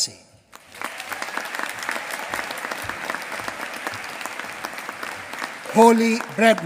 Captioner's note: applause